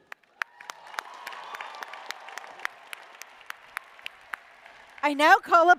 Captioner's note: applause